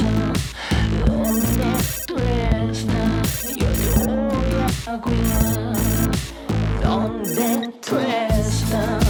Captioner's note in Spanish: Suena un celular